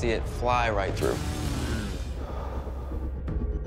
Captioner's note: exhales